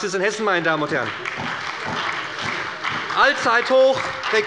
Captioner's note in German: Beifall bei der SPD und der FDP